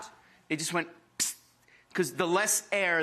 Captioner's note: hisses